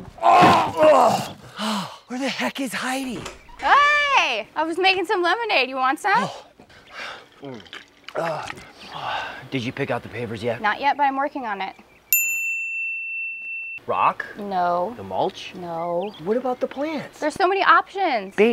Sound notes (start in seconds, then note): 6.2 gulping; 8.1 exhales; 12.1 bell dinging